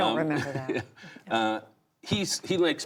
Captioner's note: laughter